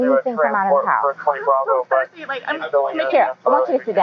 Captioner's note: voices on police radio, indistinct